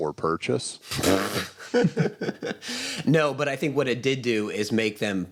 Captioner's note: laughs